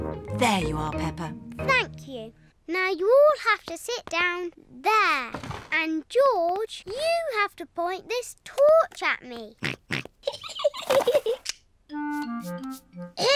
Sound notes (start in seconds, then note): 9.6 snorts; 10.2 giggling